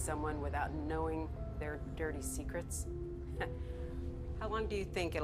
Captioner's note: chuckles